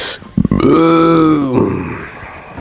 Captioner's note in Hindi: कराहने की आवाज़